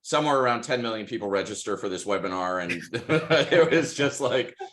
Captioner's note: laughs